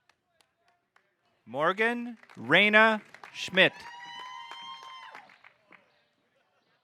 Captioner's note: audience cheering